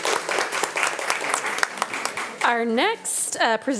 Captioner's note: audience applauding